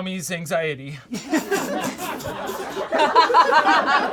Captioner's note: all laugh